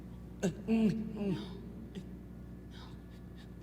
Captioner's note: moans softly